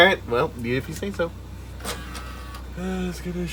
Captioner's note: sad CD drive eject noises